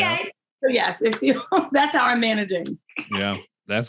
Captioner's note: laughing